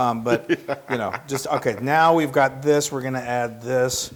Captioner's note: laugh